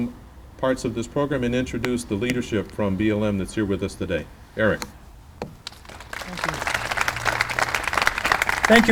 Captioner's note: clapping